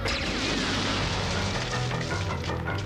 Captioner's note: shoots pulse rifle